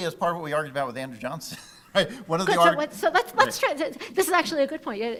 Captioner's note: laughing